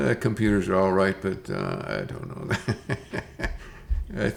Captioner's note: laughs